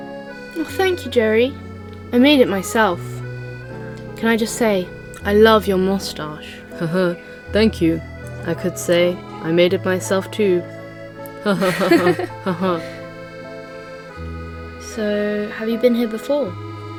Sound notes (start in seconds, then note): 7.1 chuckles; 11.4 they both laugh together